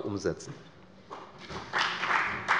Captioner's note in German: Beifall bei der FDP und dem BÜNDNIS 90/DIE GRÜNEN